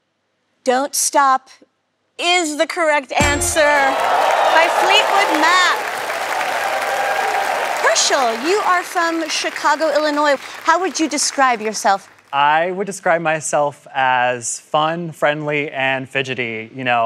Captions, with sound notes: "Don't Stop" is the correct answer by Fleetwood Mac. [cheering] Hershel, you are from Chicago, Illinois. How would you describe yourself? I would describe myself as fun, friendly, and fidgety, you know, I--